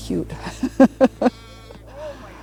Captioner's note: laughing; lamb bleating